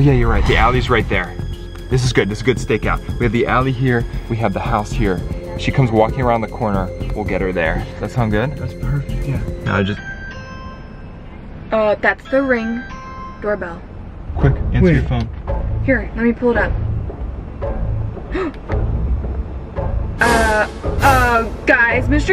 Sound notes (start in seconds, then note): 9.6 door bell rings; 18.3 gasps